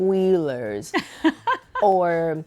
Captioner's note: laughing